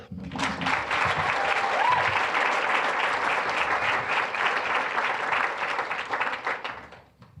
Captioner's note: applause